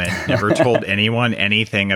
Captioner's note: laughs